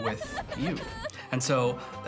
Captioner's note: child crying